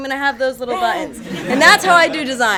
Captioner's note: audience chuckles